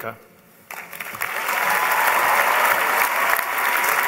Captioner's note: applause